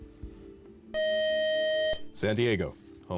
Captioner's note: time up buzzer